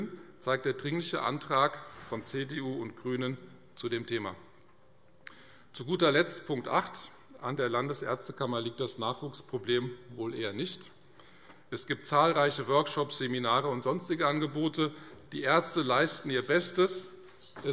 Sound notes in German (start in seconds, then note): none